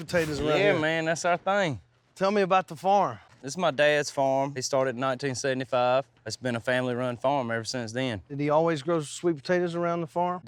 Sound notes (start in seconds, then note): none